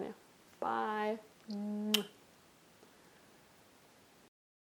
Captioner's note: kissing noise